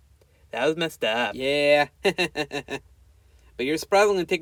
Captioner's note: laughs